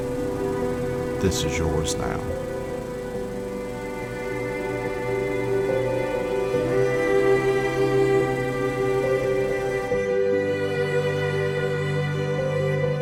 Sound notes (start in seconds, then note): 8.3 35 mm projector winds down